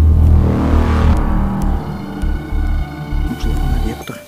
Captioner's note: car drives